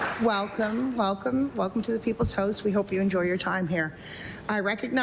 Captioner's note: applause